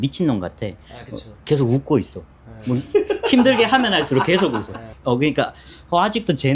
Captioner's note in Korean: 웃음